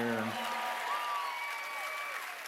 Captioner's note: cheers and applause